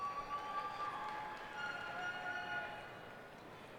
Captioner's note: cheers and applause